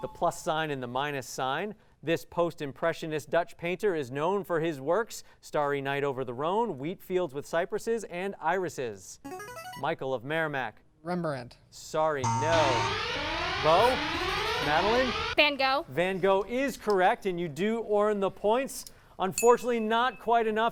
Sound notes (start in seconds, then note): 9.0 ringing; 12.2 sirens